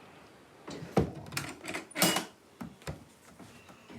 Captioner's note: lock clicks